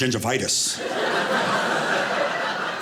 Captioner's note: audience laughing